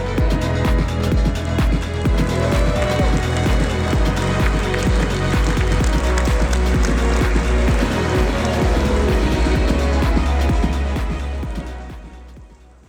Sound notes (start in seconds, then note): 2.0 applause